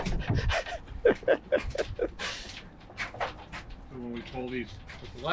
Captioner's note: laughing